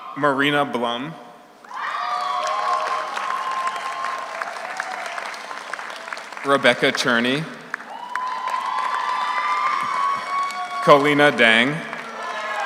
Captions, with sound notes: Marina Blum. (audience cheers) (audience applauds) Rebecca Czerny. (audience cheers) (audience applauds) Kolena Dang.